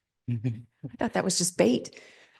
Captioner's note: laughs; laughing